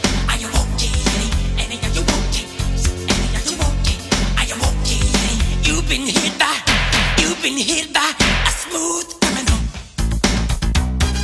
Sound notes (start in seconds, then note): 4.5 gun booming